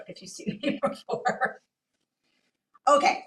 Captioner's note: laughs